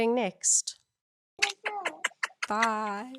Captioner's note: kisses